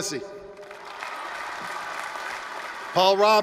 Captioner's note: applause, cheering